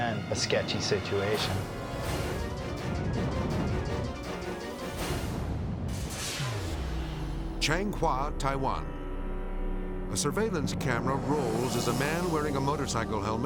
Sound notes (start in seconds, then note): 3.1 intense orchestral music; 3.1 snow rumbling; 5.3 transition whooshes